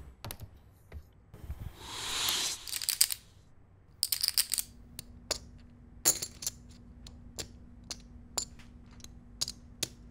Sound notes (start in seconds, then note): 2.6 chips rattle